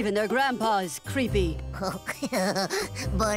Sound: laughing

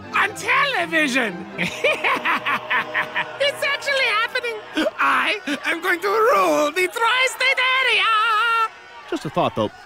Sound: evil laughter

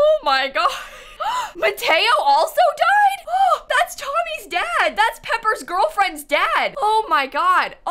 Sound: gasps

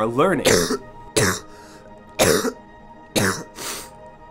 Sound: coughing

